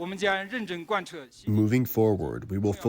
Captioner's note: through translator